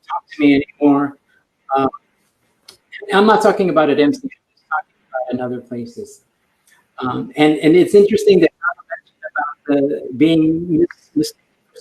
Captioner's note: broken audio